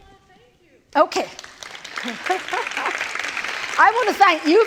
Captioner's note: applause